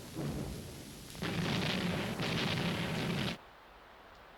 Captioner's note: explosions